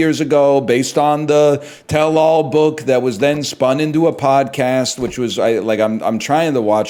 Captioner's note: stammers